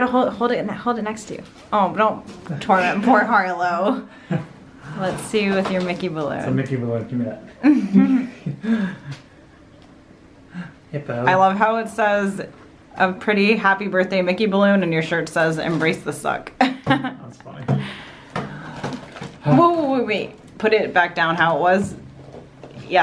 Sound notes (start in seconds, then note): 16.4 laughs